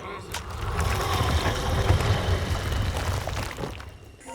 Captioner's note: guns clicking